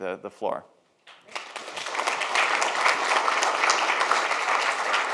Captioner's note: audience applauds